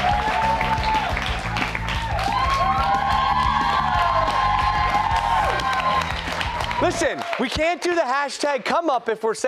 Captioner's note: cheers and applause